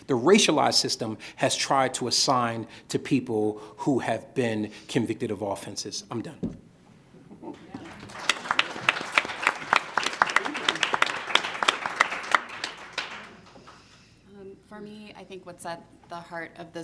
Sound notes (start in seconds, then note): 7.5 audience applauding